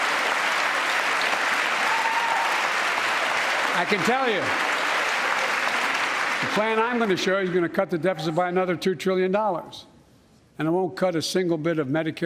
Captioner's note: applause